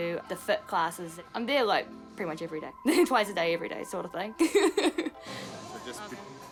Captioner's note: laughs